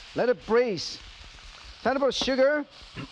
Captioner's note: vegetables sizzling